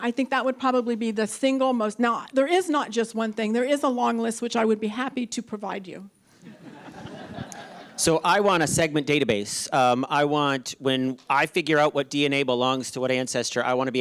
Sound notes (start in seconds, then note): 6.4 audience laughing